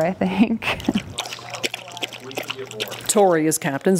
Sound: water splashing

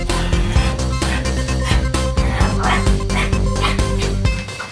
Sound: Mike imitates dog noises

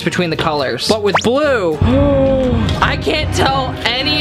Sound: gasps

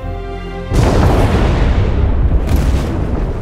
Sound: dramatic music; explosion

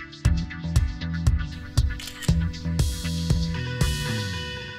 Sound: camera clicking

